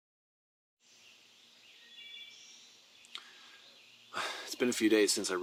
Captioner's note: birds chirp